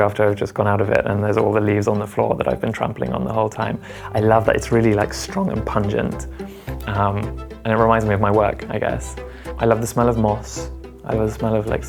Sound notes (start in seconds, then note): none